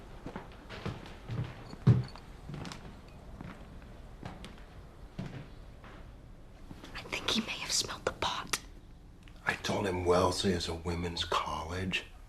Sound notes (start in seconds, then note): 6.8 WHlSPERlNG